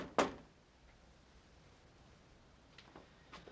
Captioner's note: Kate knocking